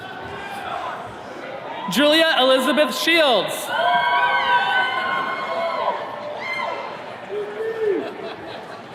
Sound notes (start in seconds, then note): 3.5 attendees cheering